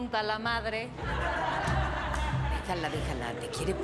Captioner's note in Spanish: risas